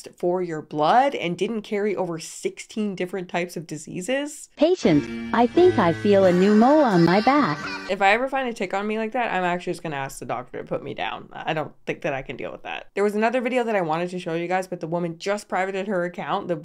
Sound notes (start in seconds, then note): 4.6 robotic Voice